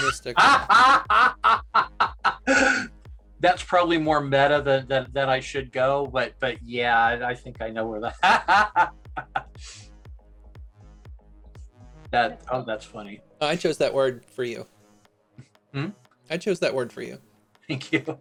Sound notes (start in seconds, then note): 3.3 laughs